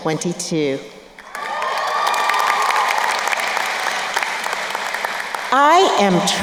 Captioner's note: crowd cheering and applauding